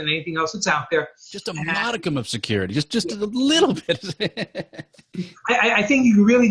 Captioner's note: laughing